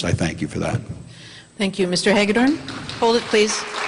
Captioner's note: audience applauds